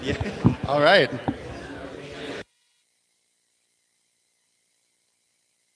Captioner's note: no audio